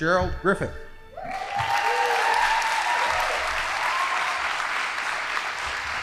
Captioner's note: audience applauding